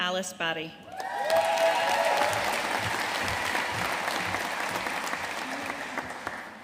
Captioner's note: audience cheering and applauding